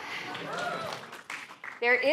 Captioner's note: cheering